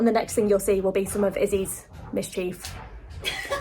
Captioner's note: laughs